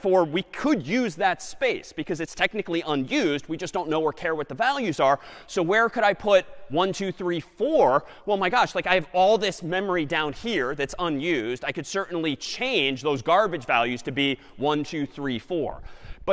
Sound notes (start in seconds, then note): none